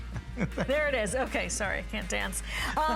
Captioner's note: laughter